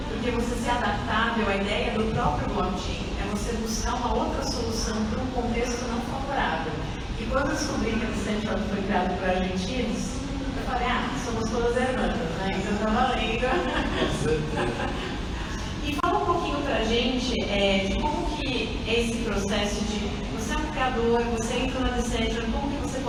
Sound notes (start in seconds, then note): 13.4 laughs